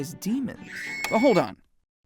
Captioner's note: scream